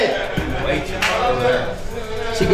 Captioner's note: player Chatter